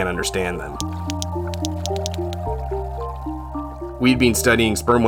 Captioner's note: gentle music; whale clicking